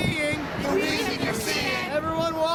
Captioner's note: crowd Responds